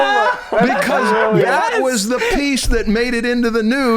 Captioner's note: laughter